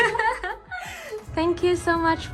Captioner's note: laughing